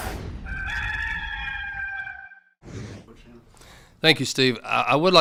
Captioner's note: rooster crowing